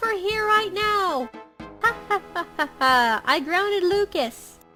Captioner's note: laughs